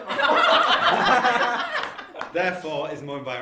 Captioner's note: laughter